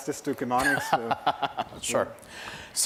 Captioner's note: laugh